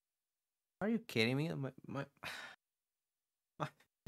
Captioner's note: sigh